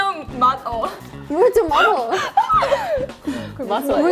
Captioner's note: laughing hard